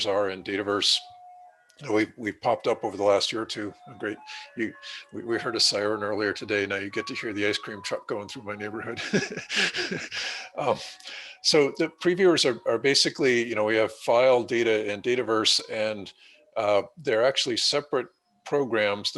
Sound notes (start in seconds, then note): 8.5 laughs